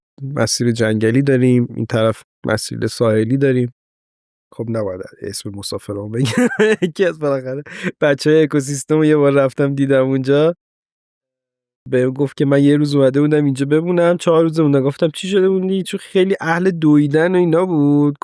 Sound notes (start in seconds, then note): 6.2 chuckling